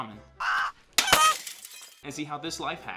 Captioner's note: shattering